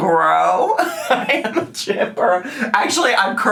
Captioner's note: laughs